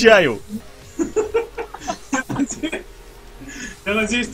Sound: multiple laughing

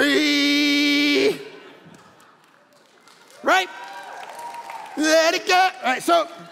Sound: congregation laughing; congregation applauding

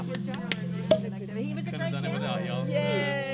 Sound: cork pops

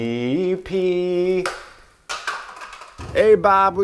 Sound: roll thuds

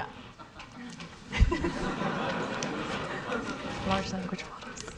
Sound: audience laughing

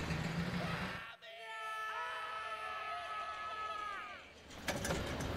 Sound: screaming

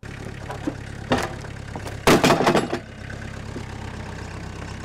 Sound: slab clatters

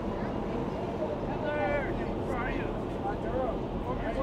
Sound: overlapping chatter

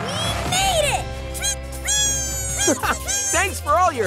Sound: birds tweeting

